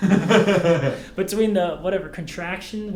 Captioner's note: Thomas laughs